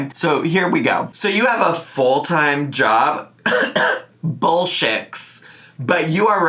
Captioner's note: coughing